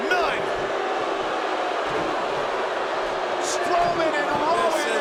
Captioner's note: crowd booing